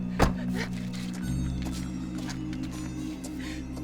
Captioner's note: door thuds